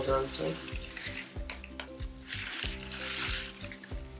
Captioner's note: pouring rocks